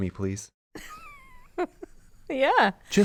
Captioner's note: laughs